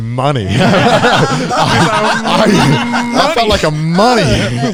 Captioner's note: everyone laughing